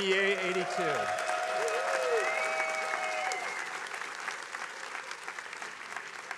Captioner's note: attendees cheering and applauding